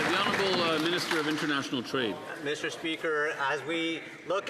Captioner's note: some Applause